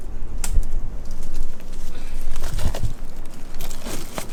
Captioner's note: twigs snapping